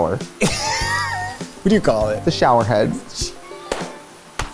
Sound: laughs

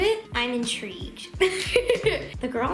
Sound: laughing

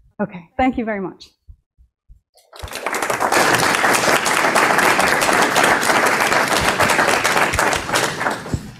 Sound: applause

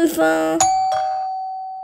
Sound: doorbell

